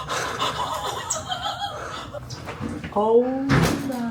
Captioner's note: laughing